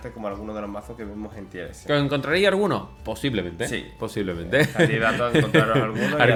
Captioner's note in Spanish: risas